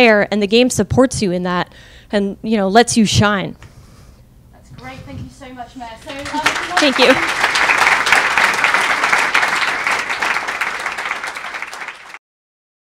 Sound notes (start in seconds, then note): 6.0 crowd clapping